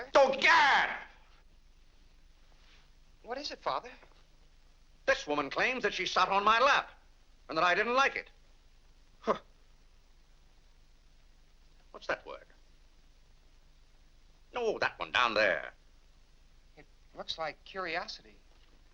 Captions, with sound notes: - Oh, GARRRR! - What is it Father? - This woman claims that she sat on my lap... and that I didn't like it! (scoffs) What's that word? No, that one down there. - It looks like "curiosity".